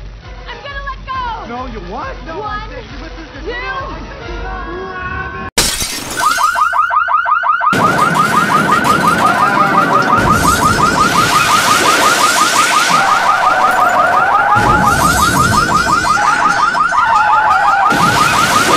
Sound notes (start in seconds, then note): 5.7 they smash into the window of a car and set off its alarm